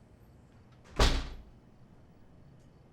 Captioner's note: door slams